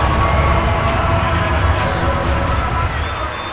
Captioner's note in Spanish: Ovación